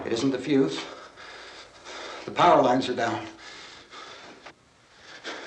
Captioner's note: panting